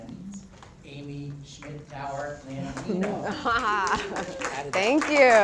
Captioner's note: applause